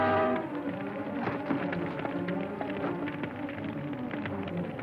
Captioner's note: fire crackling